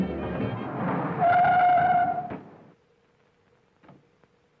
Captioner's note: tires squealing